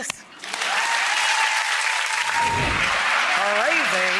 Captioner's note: crowd cheers